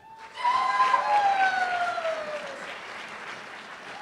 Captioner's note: cheers and applause